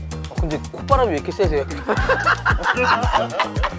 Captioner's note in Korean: 웃음